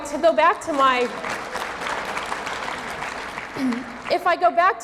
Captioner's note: audience clapping